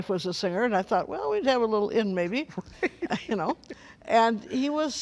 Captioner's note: laughs